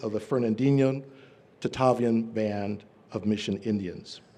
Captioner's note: none